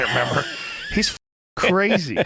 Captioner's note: laughing